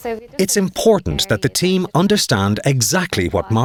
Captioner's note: voiceover